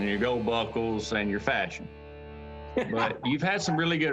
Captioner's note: laughter